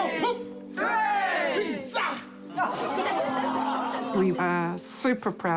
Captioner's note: exclaims vehemently; laughter